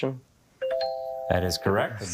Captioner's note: text chimes